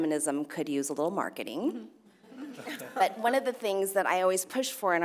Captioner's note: laugh